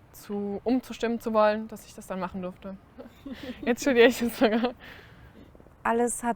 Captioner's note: laughter